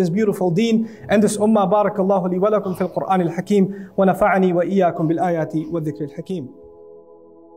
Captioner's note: Arabic